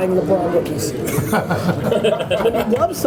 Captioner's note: laughter